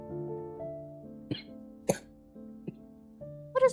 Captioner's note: STONE coughs